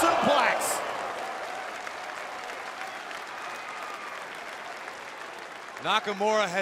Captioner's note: crowd cheering